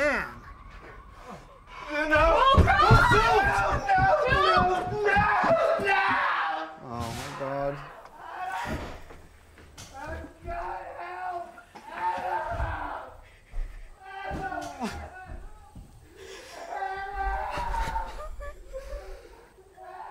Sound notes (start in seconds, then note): 13.7 Cross wails/cries from downstairs; 17.0 Dutch and Jack sob